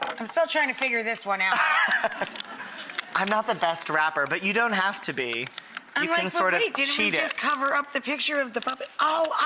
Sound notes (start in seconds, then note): 1.6 audience laughs